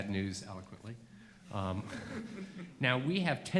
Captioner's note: laughing